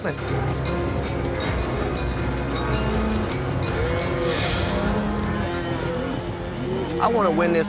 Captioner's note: cattle moo